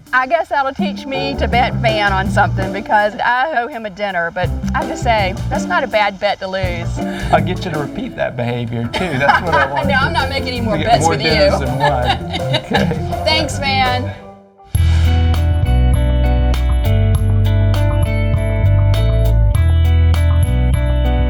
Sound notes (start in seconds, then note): 8.8 laughs; 15.1 mellow music